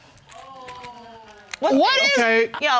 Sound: audience exclaims

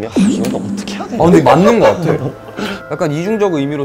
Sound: laughing

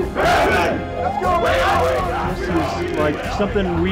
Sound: players chant loudly

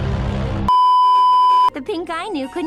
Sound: beeeeeep

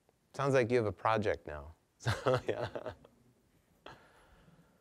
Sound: chuckling

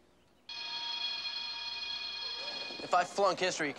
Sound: bell ringing

